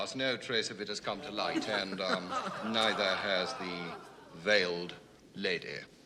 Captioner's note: all laughing